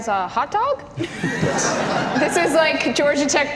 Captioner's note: audience laughter